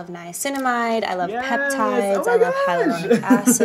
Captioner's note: laughs